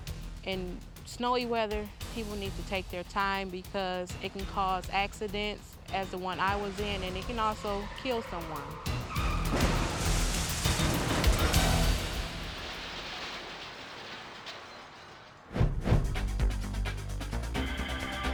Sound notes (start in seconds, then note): 9.3 tires screeching; 9.3 vehicles thudding; 15.5 tense music